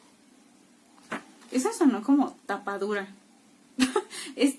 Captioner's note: in spanish